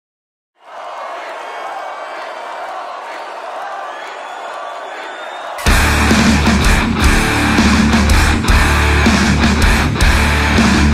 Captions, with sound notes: - [Crowd] Volbeat, Volbeat, Volbeat, Volbeat, Volbeat. (intense heavy metal music)